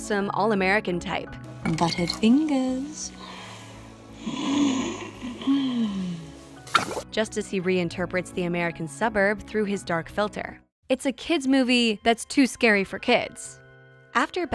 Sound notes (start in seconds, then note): 4.1 sniffs